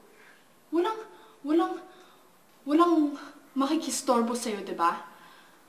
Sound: stammers

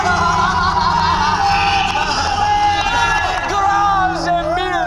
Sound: all laugh uproariously

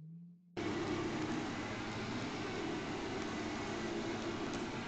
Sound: boat buzzing

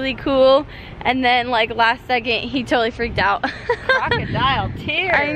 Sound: laughs

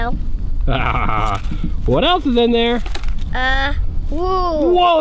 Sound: laughs

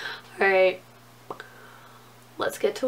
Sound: pops lips

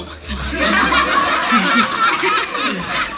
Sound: laughing

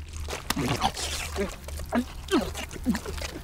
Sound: slurping

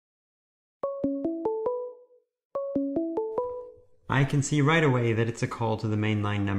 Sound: alert tone

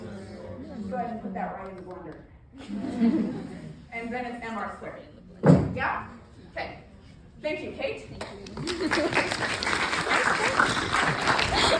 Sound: applause

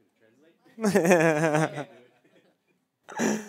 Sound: laughs

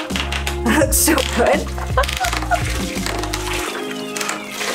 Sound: laughing

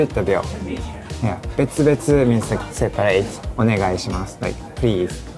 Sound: speaking in Japanese

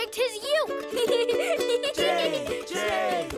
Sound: giggles

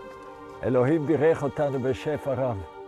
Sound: speaking Hebrew

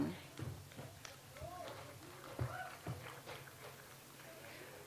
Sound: audience applauds

